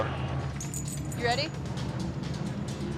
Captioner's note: jangling